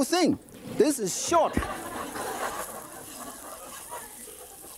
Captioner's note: audience laughing